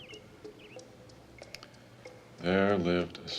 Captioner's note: bird chirping